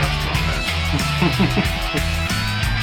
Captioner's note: laughing; upbeat rock music